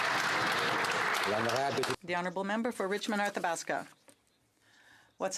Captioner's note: some Applause